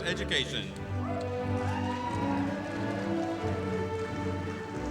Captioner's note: audience cheering; orchestra music continues